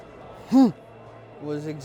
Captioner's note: grunting